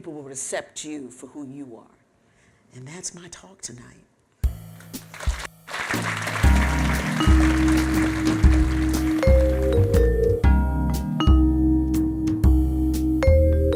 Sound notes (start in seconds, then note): 4.8 applause